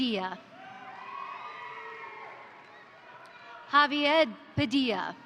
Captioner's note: crowd cheering; crowd applauding